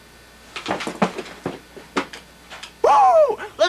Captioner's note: thuds